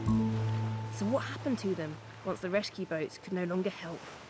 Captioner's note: waves splashing